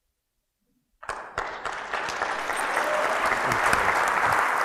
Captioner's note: audience applauds